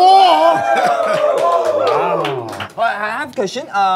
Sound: studio is cheering

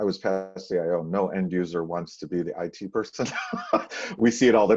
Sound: chuckles

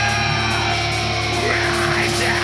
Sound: crowd cheering

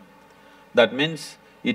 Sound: none

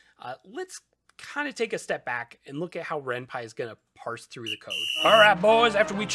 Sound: sports whistle

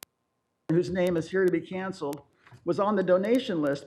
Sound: audio cutting in and out

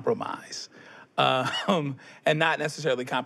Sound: chuckles

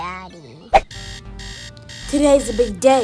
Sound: alarm-clock noises

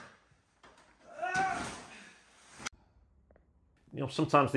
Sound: wannabe actor yelling

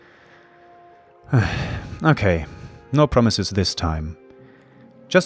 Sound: sigh

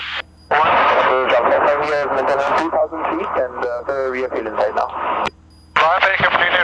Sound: ATC radio chatter

